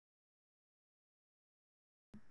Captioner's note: silence